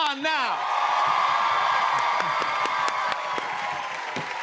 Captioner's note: cheers and applause